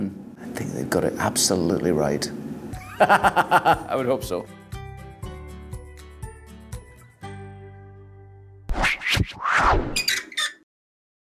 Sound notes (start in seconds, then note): 2.8 laughs; 5.1 light music; 9.9 creaking